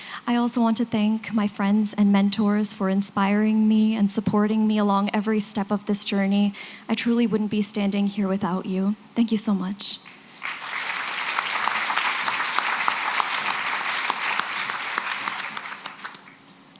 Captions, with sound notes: I also want to thank my friends and mentors for inspiring me and supporting me along every step of this journey. I truly wouldn't be standing here without you. Thank you so much. [APPLAUSE]